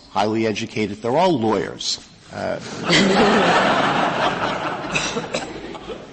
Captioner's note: laughter